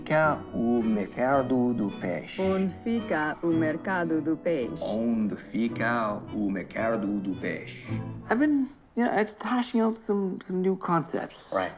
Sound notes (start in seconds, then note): 5.1 speaking in Portuguese